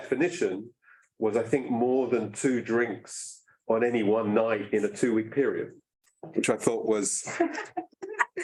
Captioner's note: laughs